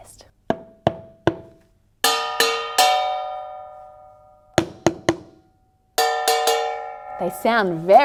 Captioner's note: beating sounds can be heard